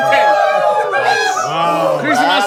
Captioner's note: female staff applauding